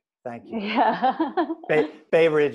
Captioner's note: chuckles